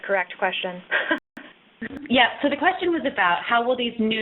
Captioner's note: laughs